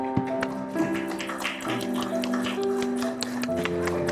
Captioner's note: applause